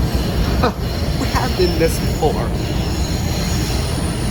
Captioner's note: chuckles